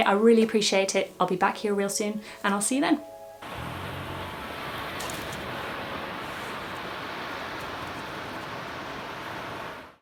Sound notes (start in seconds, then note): 3.5 water burbling